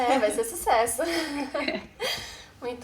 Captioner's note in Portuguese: risos